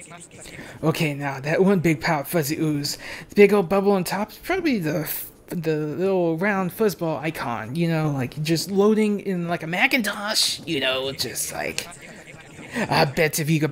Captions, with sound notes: Th' little round fuzzball icon. Y'know. Like, just- loadin' in a Macintosh! (gravely voice) Yew know juzt liek.